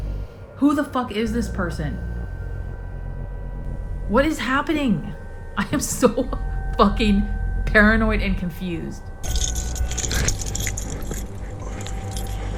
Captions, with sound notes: Who the fuck is this person?! What is happening?! I'm so fucking paranoid and confused. [car keys jingle]